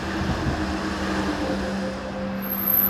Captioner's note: passing streetcar